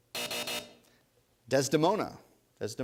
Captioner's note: buzzer